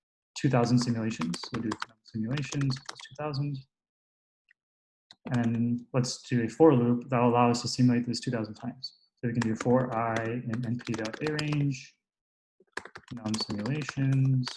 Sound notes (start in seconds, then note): 5.2 typing